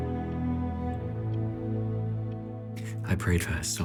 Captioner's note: clock ticking